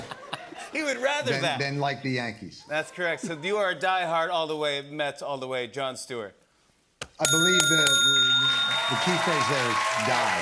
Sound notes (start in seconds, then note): 7.2 bell dings